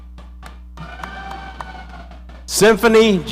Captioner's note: audience applauding